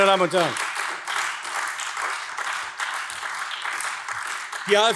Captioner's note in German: Beifall AfD